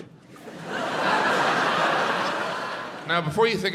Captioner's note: audience laughs